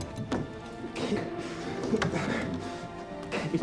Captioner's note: grunting